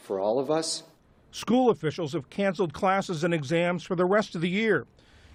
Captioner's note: voice-over